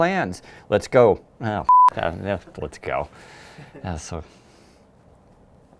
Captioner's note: beep